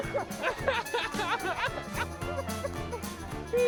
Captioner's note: laughing